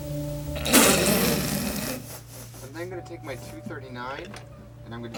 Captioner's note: laughing